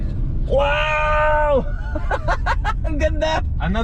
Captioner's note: laughs in disbelief